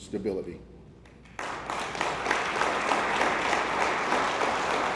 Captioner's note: attendees applauding